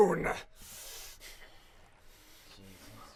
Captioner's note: shocked Silence